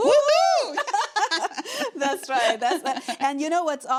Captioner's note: laughing